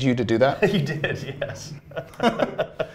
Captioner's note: laughs